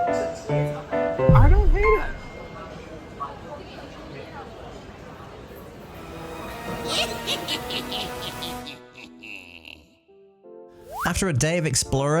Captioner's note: villain laughing